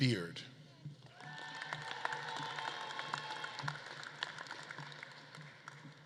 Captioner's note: audience claps and cheers